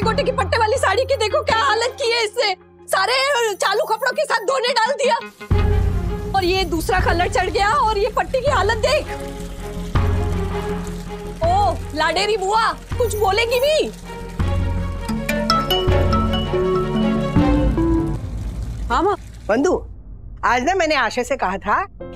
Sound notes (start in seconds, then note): 9.5 dramatic music; 15.2 mobile ringing